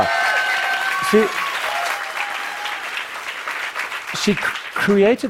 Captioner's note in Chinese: Applause; 掌聲